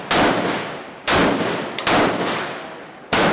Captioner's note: gunfire